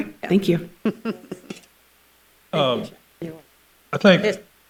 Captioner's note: laughs